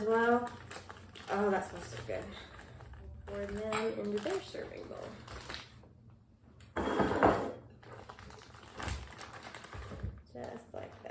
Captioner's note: bowl slides and package rustles